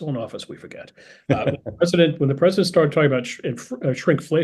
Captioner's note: laugh